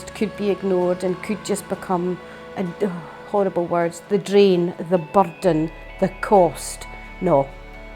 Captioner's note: sighs